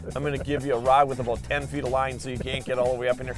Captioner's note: laughs